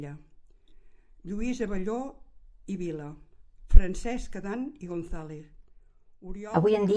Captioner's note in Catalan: es fon la veu